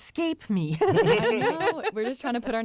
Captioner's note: laughter